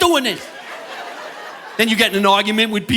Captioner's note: audience laughing